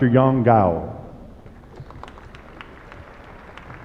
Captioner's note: applause